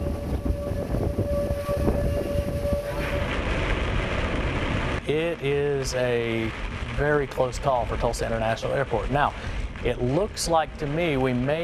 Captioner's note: siren sounding